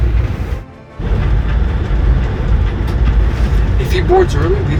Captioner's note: train rumbling